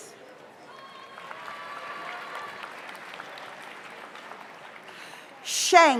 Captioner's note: audience cheers; audience applauds